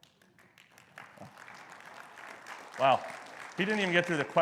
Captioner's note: audience applause